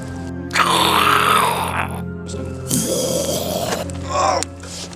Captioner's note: groaning